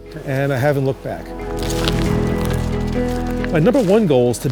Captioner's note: footsteps